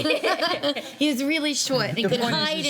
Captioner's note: laughing